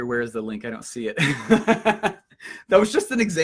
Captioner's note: laughs